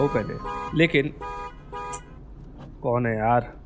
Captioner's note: car honking